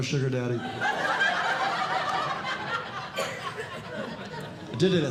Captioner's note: audience Laughing